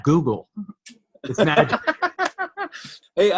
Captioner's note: laughs